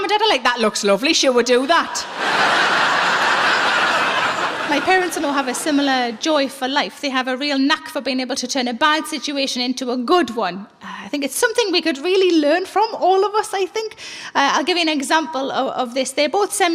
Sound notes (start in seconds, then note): 2.0 laughing